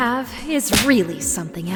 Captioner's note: whack